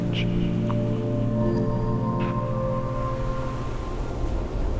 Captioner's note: inspiring music continues; waves crashing